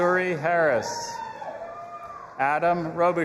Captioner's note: audience applauding and cheering